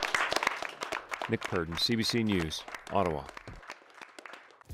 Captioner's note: applause